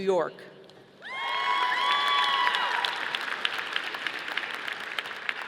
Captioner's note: audience applauding